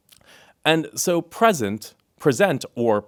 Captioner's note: none